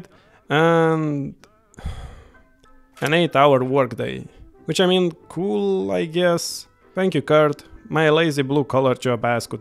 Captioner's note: sigh